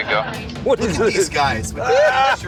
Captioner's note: laughs